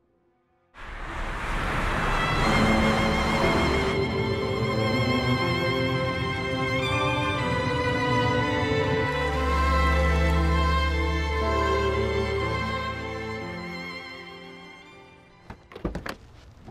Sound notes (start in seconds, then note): none